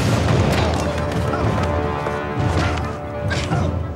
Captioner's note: grunting